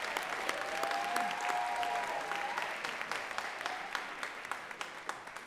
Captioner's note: audience cheering and clapping